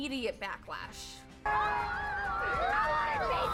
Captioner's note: kids booing